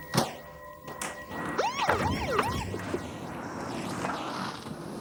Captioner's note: siren pulsing